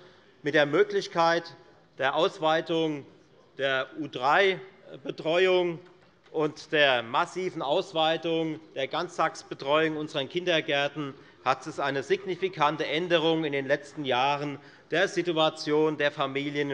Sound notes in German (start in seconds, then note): none